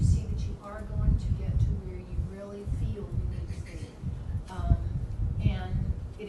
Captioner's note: coughing drowns out speaker